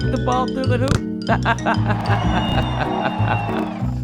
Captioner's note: extended laughter